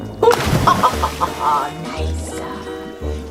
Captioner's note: splashing